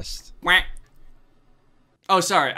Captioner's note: Danny quacks